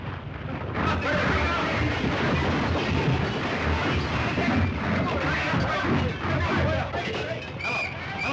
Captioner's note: sounds of chaos & destruction; men yelling